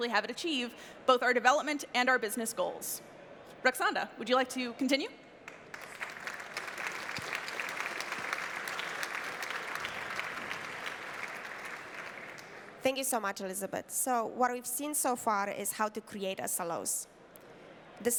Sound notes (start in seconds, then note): 5.4 applause